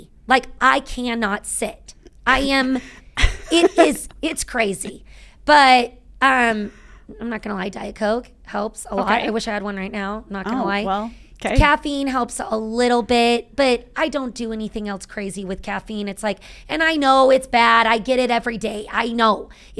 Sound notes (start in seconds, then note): 2.7 chuckling